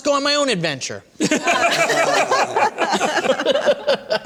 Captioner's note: laughter